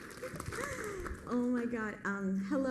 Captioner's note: applause